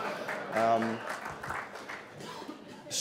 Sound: laughing; applause

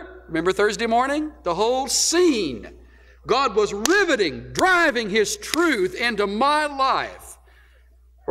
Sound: claps hands intermittently

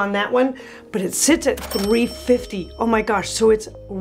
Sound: bell rings

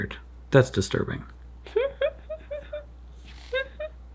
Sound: laughs

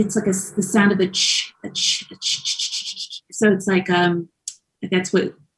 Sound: shushing; shushes

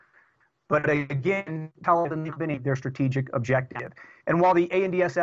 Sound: audio corruption

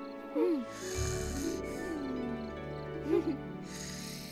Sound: snores lightly; both giggle softly

